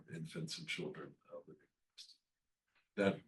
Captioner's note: faintly speaking